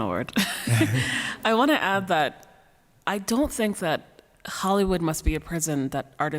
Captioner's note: laughs